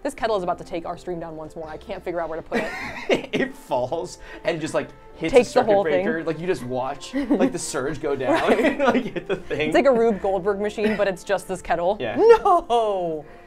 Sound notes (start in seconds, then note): 2.6 laughs